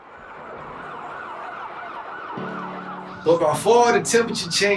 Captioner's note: sirens blaring